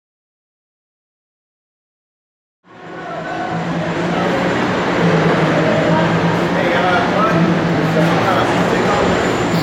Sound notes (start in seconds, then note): 3.1 general construction noise, men talking and shouting